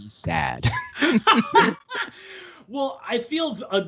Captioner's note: all laughing